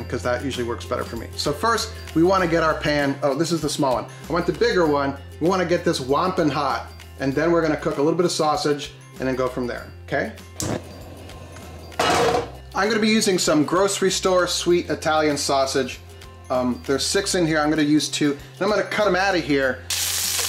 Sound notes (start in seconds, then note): 10.6 gas hissing; 19.8 meat sizzling